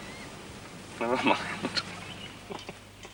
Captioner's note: chuckling